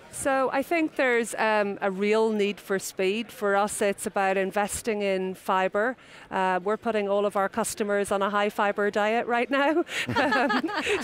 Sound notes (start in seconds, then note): 9.9 laughs